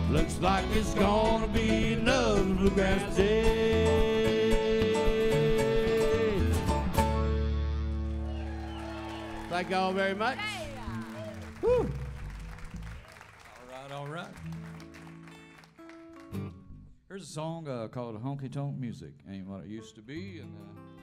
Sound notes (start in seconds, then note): 8.2 crowd cheers